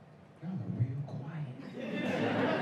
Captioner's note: whispers; laughter